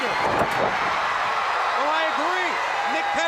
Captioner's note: crowd cheering